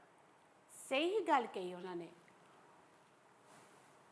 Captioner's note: in Punjabi